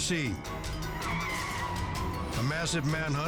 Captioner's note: tires screeching